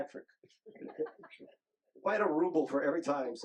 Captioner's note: group laughing